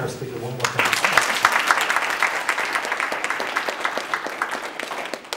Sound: applause

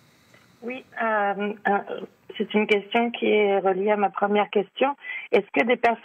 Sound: speaking French; reporter speaking in French

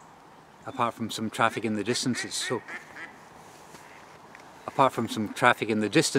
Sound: duck quacks loudly

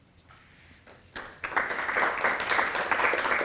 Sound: applause

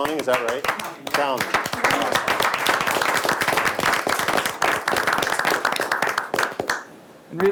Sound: all clap

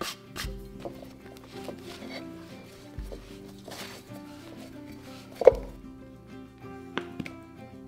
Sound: kneading

